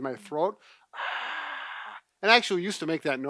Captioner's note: exhaling